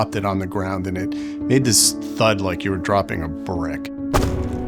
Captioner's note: thud